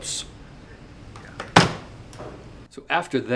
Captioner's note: phone receiver thuds